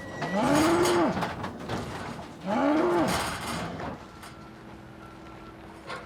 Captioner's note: gate clattering; bull roaring